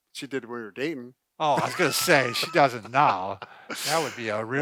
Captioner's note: laughs